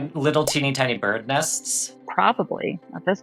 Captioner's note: nests blooping